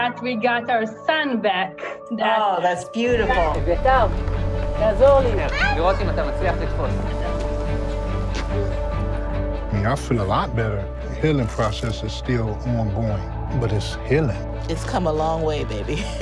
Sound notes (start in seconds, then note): 4.9 speaks in foreign language